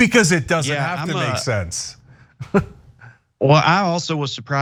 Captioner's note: laugh